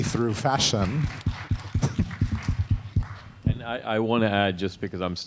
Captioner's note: audience clapping